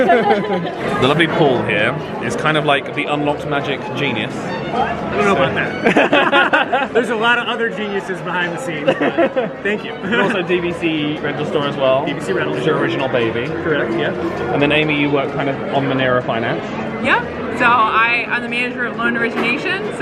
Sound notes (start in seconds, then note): 0.0 laugh; 5.5 laugh; 8.8 laughs